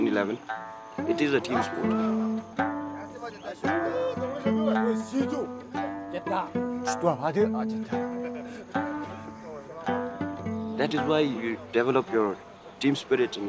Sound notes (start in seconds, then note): 4.4 speaking in foreign language